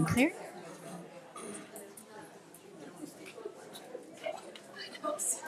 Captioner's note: attendees chattering